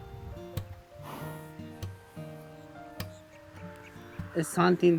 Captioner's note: horse chuffing